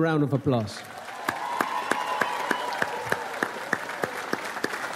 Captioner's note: audience applauds